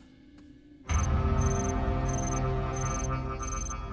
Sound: beeping

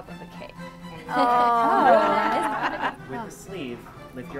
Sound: crowd moans

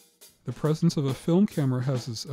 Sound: voiceover

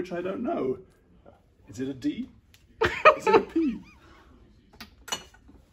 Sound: laughing

